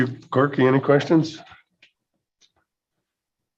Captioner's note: silence